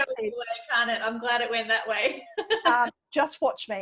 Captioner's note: laughs